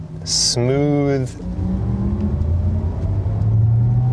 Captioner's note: car accelerating